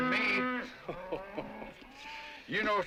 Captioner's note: Tom laughs